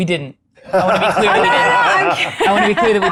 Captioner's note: participants laughing